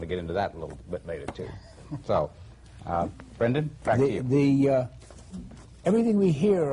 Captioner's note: laughter